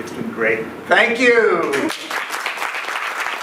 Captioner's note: clapping